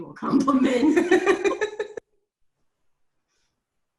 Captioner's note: laughs